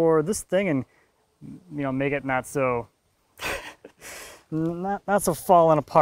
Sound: laughing

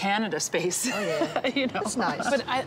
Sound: laughs

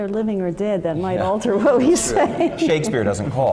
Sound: laugh

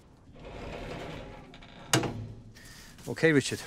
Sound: door creaks open

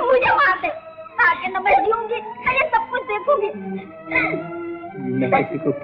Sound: crying

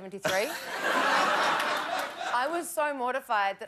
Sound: laughter

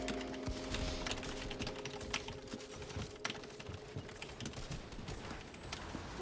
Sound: keyboard clacking

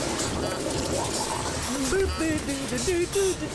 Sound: humming

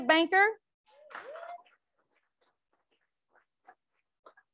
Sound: crowd applauds

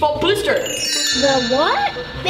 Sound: chiming

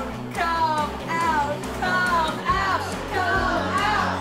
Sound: crowd joins in

